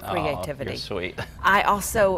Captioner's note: laughs